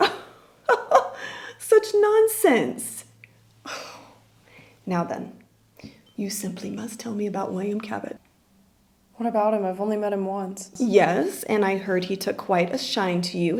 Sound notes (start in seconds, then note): 0.7 laughs; 3.6 sighs